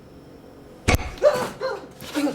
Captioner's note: thunk!